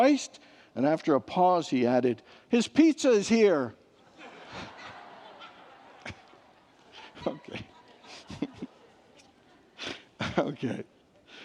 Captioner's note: congregants laugh